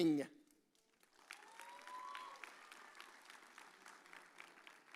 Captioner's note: audience cheers